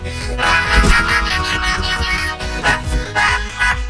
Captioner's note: laughing hysterically